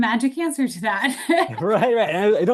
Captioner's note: laughs